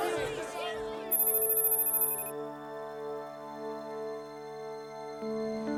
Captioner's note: reporters shouting; electronic beeping